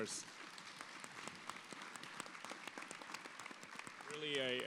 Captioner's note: audience applauds